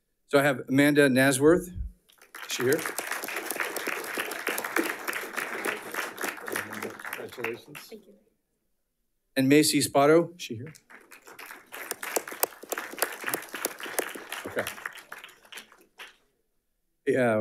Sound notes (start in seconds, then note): 3.7 audience applauding; 10.6 audience applauding